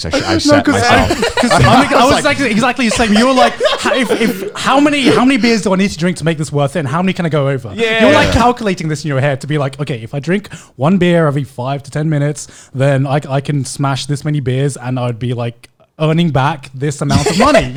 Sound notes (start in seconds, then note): 0.0 all laughing